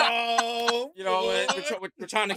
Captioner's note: laughing